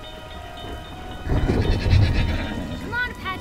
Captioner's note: train crossing ringing; whinnying